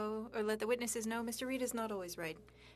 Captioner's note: speaking French